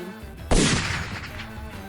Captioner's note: Counter-Sniper fires